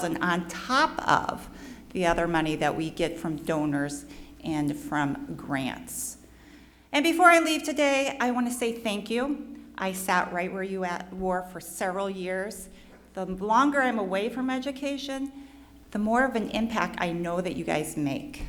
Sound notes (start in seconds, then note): none